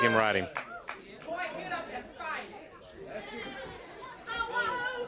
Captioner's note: crowd chatter